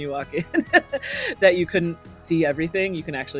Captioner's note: chuckling